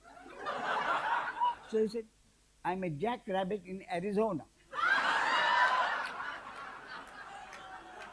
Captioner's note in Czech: smích; smích